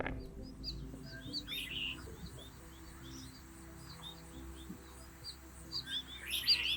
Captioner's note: gentle music; birds chirping